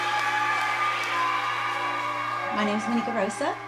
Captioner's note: cheers